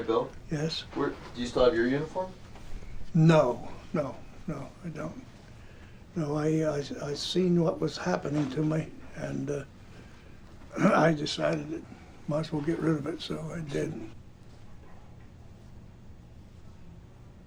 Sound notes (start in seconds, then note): 10.7 clears throat